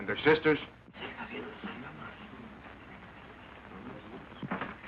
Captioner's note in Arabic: همهمة الحشد